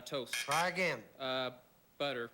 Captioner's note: buzz z buz